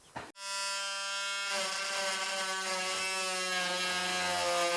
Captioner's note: machine whirring